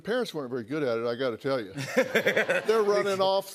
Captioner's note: laughter